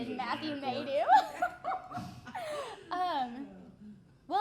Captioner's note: laughing